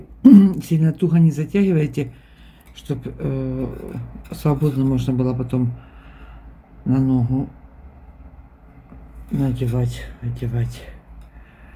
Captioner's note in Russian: вздыхает